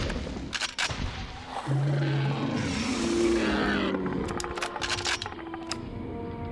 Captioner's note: gun cocking